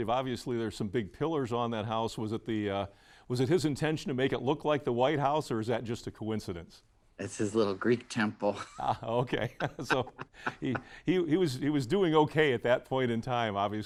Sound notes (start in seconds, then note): 8.6 chuckling